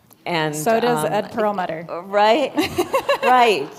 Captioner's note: laughter